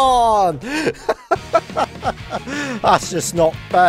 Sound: laughter

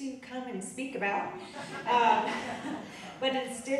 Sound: audience laughing

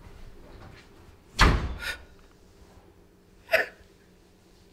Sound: door slams; Renee cries

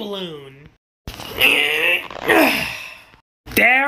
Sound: grunts

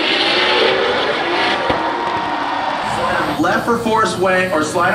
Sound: crowd cheering

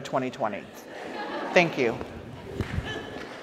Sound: audience laughs

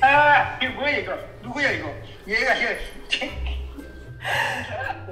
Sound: dad speaking in Korean

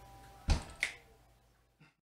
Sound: snaps fingers

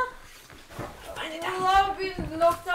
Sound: whispering

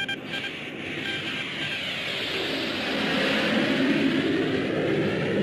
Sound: planes roaring

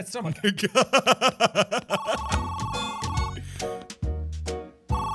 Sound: Markiplier laughing even more, he cray; phone rings

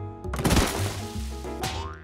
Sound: crash

